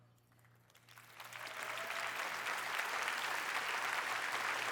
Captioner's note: applause